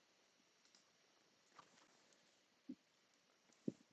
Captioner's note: silence